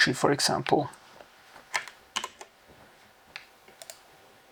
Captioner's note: keyboard clicking